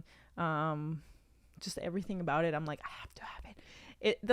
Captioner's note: whispers